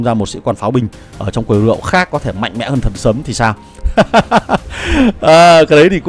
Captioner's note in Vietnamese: tiếng cười